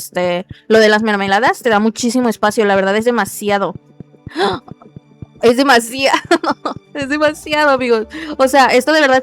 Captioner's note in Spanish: risas